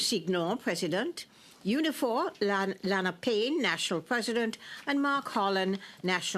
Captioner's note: speaking French